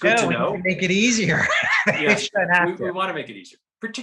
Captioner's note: laughs